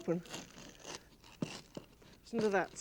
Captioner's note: bread crunching